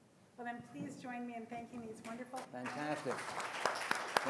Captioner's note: faintly speaking